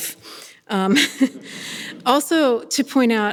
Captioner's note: people laughing